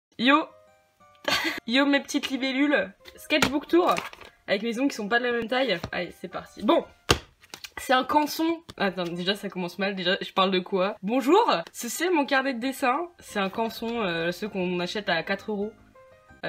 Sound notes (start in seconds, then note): 1.2 chuckles